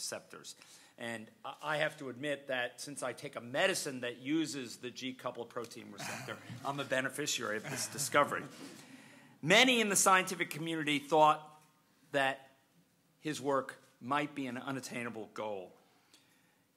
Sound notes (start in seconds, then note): 6.8 laugh